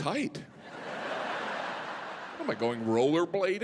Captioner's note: audience laughing